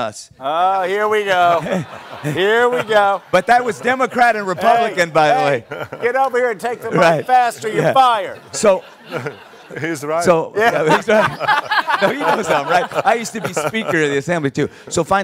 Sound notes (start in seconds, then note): 1.7 laughter; 8.0 audience laughing; 10.6 laughter continues